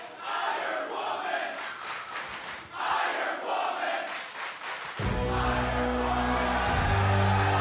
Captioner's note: crowd cheering